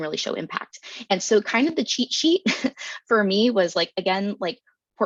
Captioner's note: chuckles